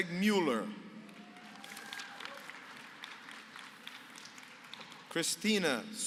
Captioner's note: applause